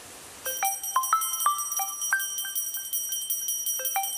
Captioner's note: phone ringing